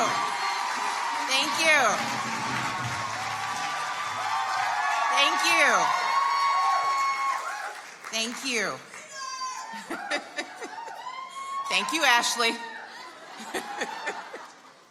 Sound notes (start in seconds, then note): 0.0 audience cheers and applauds; 2.2 audience continues cheering